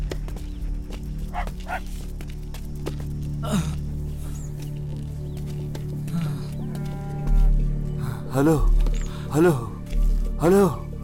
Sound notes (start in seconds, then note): 1.6 dog Barks; 3.4 sighs; 6.0 sighs